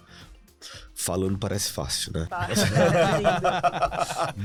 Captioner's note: laughter